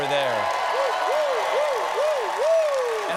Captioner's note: cheers and applause